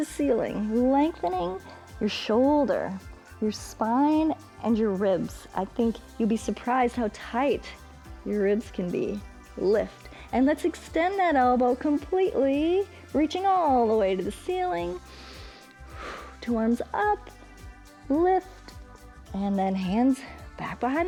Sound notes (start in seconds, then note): 15.0 inhales and exhales